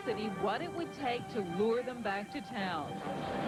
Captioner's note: background chatter